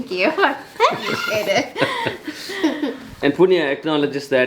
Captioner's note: all laughing